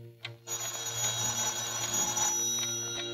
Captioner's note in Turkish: telefon çalar